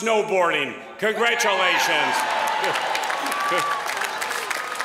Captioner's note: applause